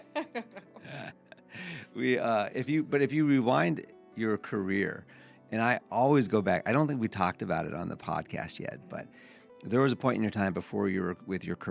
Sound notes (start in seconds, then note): 0.0 both laughing